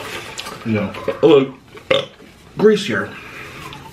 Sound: burping

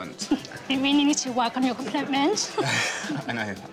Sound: laughs

